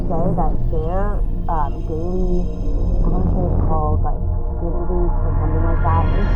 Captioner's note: extraterrestrial sounds